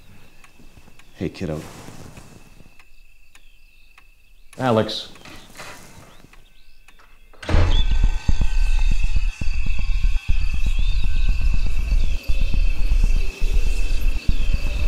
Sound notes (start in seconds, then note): 7.3 door slams; 8.4 crickets chirping; 14.0 demonic whisper